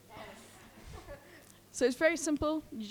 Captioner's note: group laughing